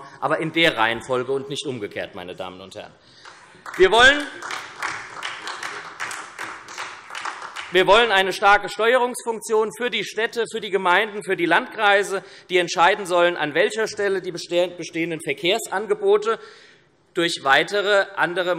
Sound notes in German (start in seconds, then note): 3.2 Beifall SPD